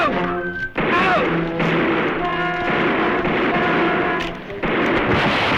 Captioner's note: gunfire